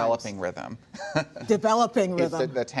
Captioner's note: laughter